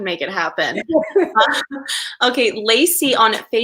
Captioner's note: laughing